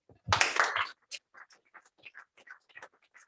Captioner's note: applause